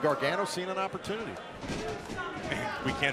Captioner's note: crowd cheering